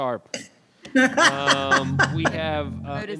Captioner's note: laughs